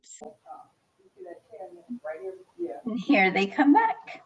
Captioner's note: participants chattering